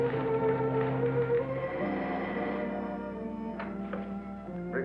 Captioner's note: phone ringing